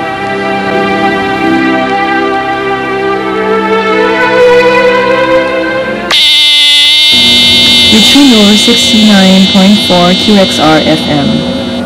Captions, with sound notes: [alarm clock buzzing] [Leonor over the radio] You're tuned in to sixty-nine point four QXR-FM,